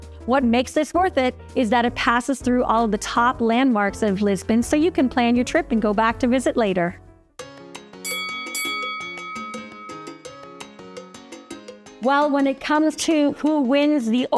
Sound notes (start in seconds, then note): 7.2 lighthearted music; 8.0 bell dings